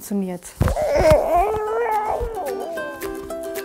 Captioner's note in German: Quengeln, sanfte Musik